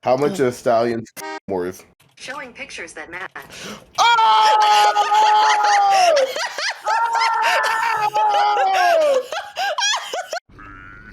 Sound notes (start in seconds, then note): 4.0 outright screaming at horse privates; 8.5 losing her mind laughing